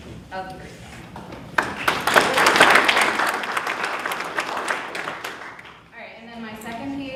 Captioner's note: applause